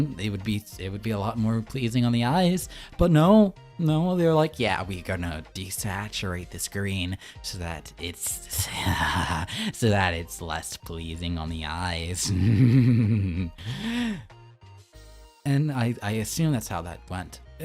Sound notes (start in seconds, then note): 12.2 laughing